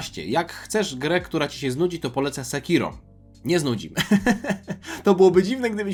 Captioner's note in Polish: śmiech